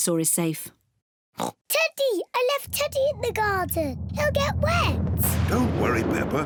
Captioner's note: oinks